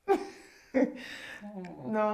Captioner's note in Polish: śmiech